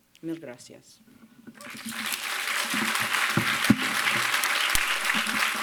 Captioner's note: applause